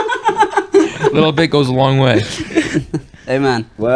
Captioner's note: laughter